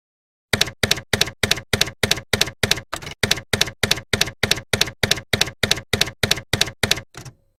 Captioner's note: typewriter keys clacking